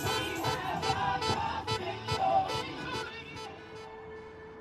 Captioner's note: car horns beeping